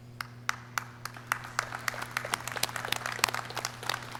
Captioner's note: clapping